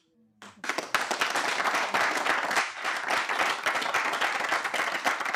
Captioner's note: audience applauding